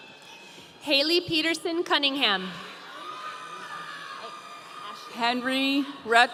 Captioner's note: audience cheering